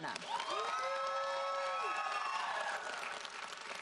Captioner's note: audience applauds